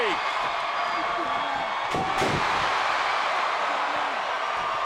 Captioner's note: crowd cheers